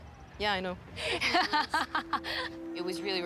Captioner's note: laughs